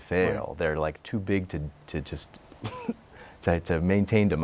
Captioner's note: laughs